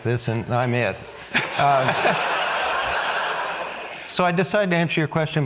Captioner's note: audience laughs